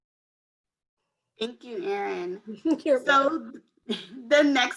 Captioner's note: laughs